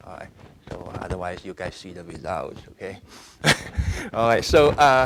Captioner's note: laughing